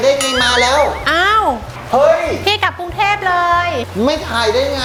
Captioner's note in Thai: ร้องตกใจ